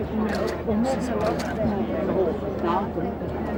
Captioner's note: cameras clicking